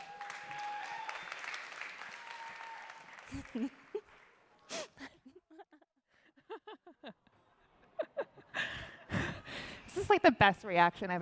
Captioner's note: applause